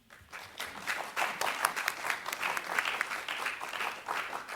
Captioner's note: audience applauds